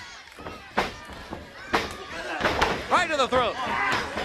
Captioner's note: crowd chatter